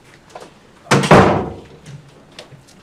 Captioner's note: door closes